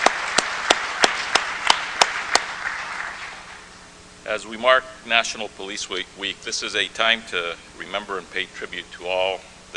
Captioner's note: applause